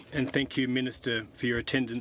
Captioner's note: speaking French